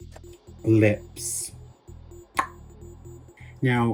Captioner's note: clicks tongue